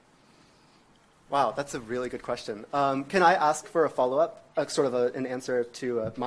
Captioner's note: none